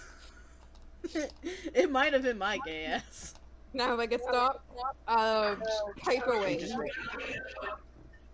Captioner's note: chuckles